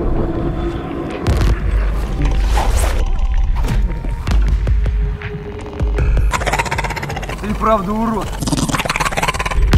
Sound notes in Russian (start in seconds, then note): 6.2 рык